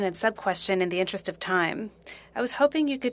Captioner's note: speaking French